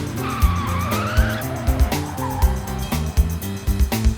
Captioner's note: screeching